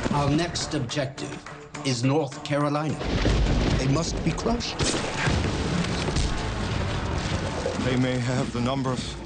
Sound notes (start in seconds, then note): 3.0 thunder cracking; 4.7 rifle whacking; 5.7 arm bashing